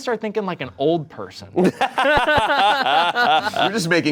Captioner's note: laughs